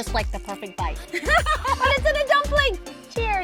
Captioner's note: laugh